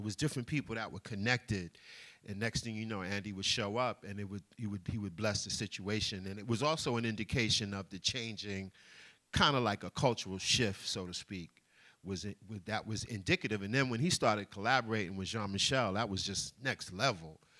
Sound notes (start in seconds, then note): none